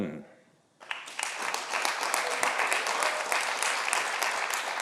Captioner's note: audience applauding